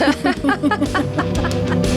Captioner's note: laughing